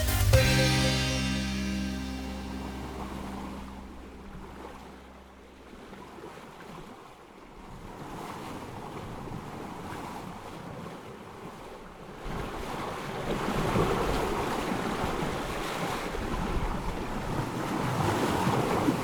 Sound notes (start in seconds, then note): 2.2 water splashing; 12.5 waves gushing